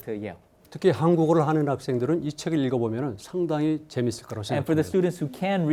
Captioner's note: speaking in Korean